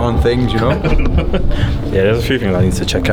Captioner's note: laughs